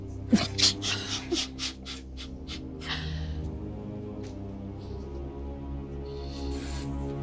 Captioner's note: dramatic music continues; people laughing